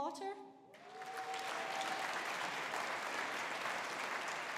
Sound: audience applauding

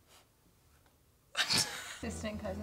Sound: laughs

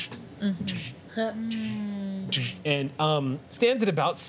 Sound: robot walking sounds

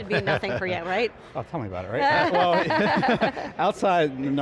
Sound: laughing

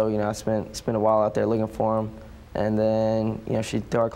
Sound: none

